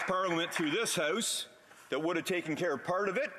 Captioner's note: some applause